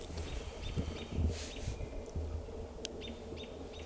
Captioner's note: birds chirping